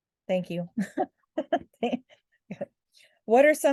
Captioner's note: laughing